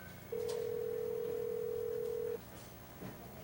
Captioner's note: phone ringing